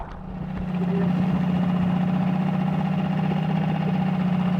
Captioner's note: motor rattles